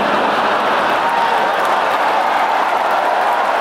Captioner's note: laugh from fans